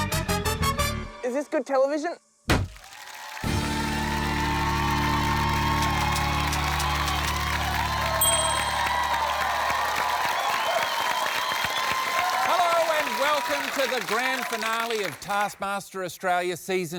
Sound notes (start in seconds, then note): 2.4 cheering, applause